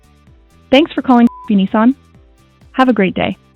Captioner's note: beep